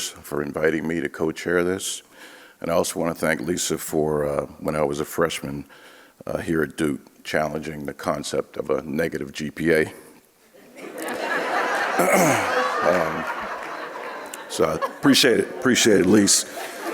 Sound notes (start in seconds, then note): 10.8 audience laughing